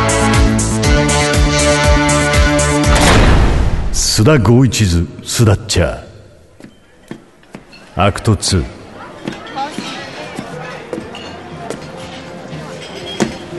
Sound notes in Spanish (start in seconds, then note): 2.9 puerta cerrándose; 6.5 pasos